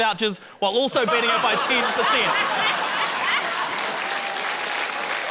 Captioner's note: laughter, applause